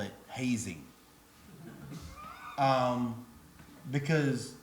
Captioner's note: audience laughs